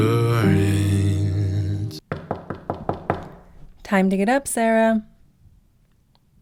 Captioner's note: knocking